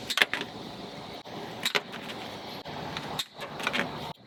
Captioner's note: snipping sounds